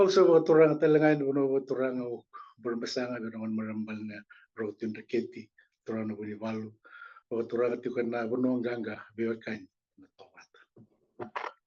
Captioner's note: non-english speech